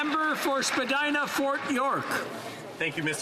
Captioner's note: applause